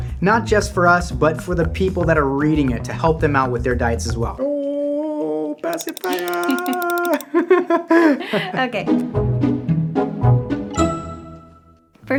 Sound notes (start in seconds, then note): 4.4 laughs; 6.6 laughing; 8.7 playful music